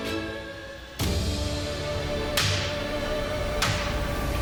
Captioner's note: whacking